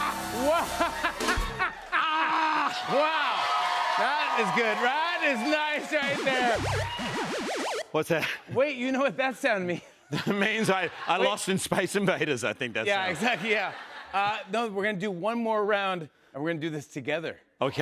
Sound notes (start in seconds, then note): 0.4 laughs; 6.2 beeping